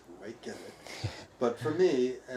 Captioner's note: chuckling